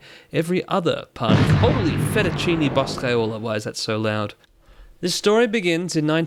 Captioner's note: massive noise